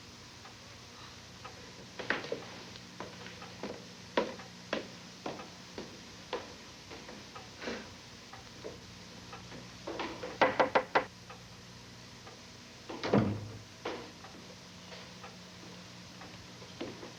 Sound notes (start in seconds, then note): 10.3 knock on door